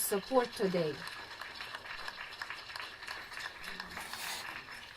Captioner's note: crowd clapping